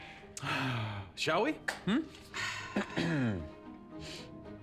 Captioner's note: shane sighs